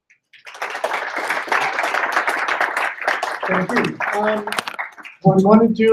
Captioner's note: applause